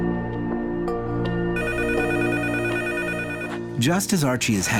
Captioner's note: phone ringing